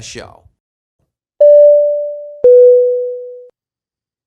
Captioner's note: title dings